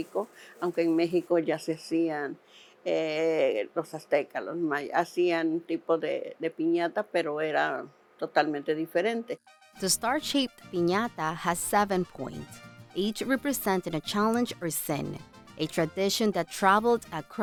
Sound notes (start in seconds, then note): 4.3 speaking Spanish